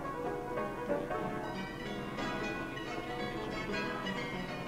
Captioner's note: none